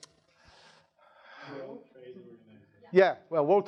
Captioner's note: sighing